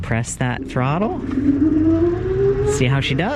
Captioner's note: motor engine roars